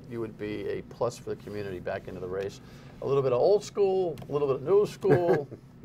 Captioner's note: laughter